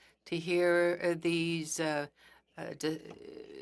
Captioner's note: speaking French